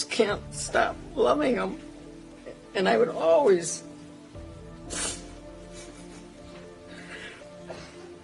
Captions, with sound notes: You just can't stop loving them. And I would always-- [sniffles]